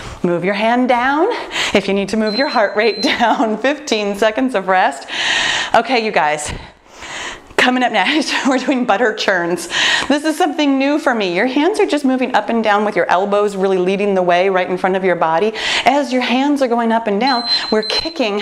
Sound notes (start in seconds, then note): 2.2 timer beeping; 17.2 timer beeping